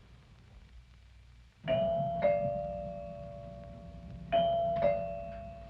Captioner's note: doorbell ringing